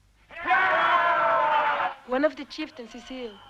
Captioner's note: chieftains cheering